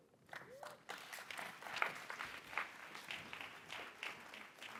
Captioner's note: audience applauds